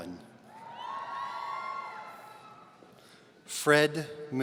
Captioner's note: audience cheering